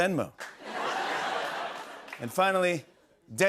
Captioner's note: laughter